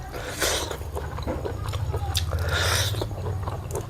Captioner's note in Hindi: नाक से की जाने वाली आवाज़